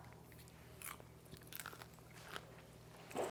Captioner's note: popcorn crunchy